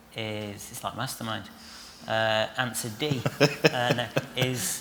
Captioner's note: laughter